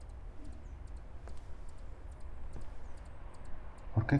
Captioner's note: birds chirping